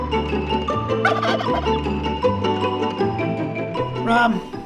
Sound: swinging big band music plays; ostrich gobbles

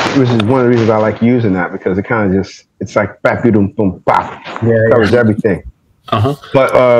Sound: makes summing up sound effect

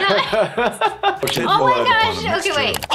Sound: laughs

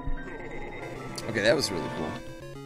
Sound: maniacal laughter

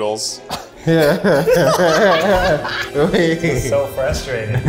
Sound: all laughing

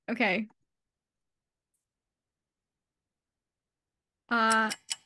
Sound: ticking nosies

